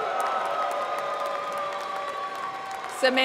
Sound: applause

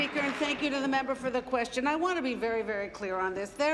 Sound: applause

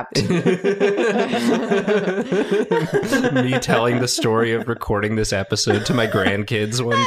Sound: laughter

